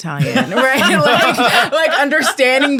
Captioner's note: all laughing